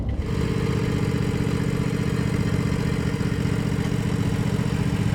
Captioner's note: tractor engine rumbling